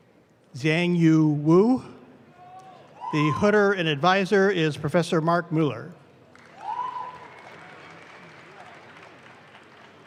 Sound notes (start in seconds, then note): 6.2 audience claps